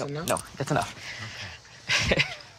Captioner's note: chuckles